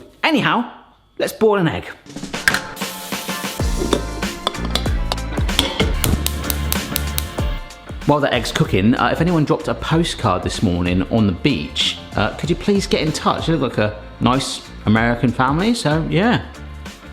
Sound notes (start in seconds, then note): 2.2 upbeat music; 5.9 gas stove clicking; 6.7 upbeat music